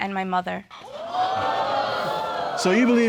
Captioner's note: audience exclaiming